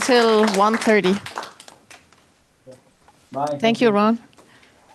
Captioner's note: applause